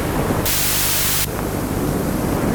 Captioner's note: lighting and Thunder; ocean Waves; Static